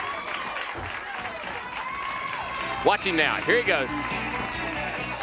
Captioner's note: crowd cheering